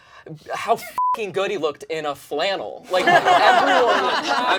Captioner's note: beep; all laugh